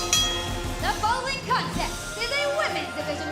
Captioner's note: bell ringing